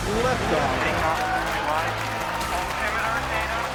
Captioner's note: applause and cheering